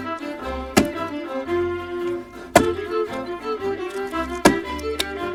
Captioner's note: ax chopping